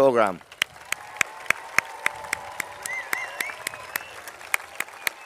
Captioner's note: applause